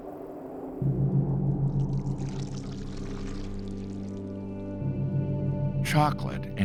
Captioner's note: chocolate splashing